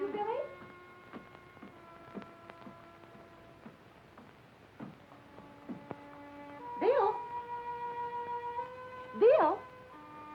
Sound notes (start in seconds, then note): none